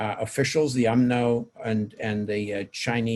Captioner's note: speaking in foreign language